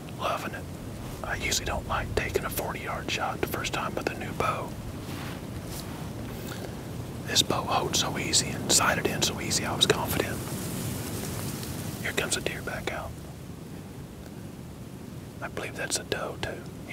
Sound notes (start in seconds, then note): 6.8 whispering